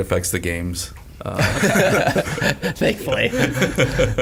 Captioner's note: all laugh